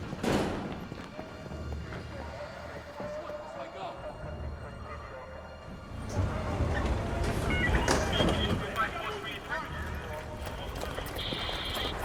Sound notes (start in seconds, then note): 1.8 police radio chatter